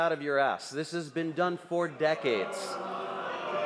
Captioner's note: crowd noise